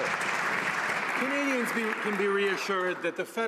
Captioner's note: some Applause